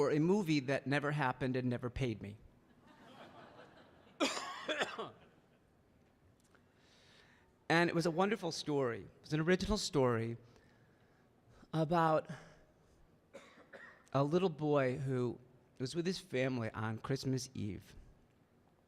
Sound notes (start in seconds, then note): 2.8 audience laughing; 4.2 coughing